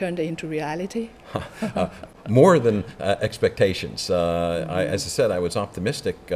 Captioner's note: laughs